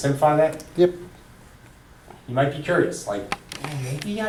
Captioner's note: voiceover